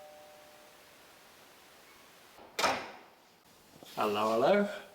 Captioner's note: doorbell